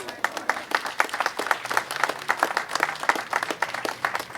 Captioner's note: audience applauding